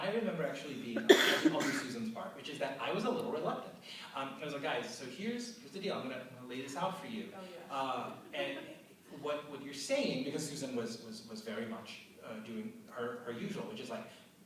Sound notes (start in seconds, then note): 1.0 cough